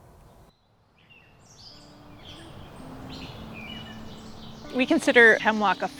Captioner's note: birds chirping